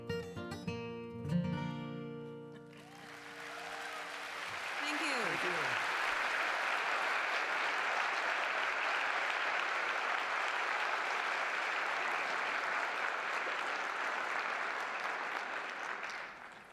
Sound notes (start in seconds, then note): 2.8 applause